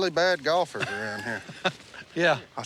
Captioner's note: laughs